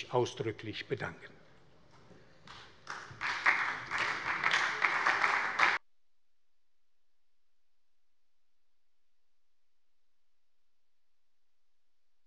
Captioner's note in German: Beifall bei der SPD